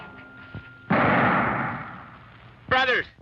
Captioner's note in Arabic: إطلاق نار